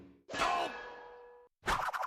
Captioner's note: Sam groaning